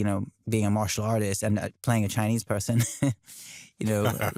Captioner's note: chuckles